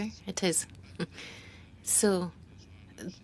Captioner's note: speaking French